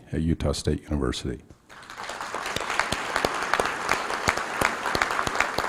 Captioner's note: applause